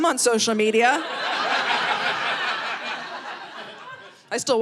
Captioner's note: audience laughing